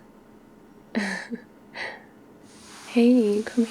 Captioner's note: laughs